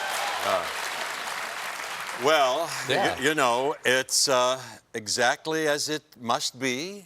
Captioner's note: applause